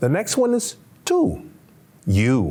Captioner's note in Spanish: Señor hablando en un idioma extranjero